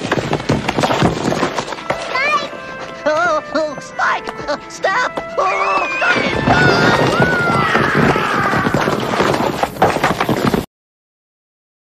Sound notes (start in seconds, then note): 5.3 straining with effort; 7.9 screaming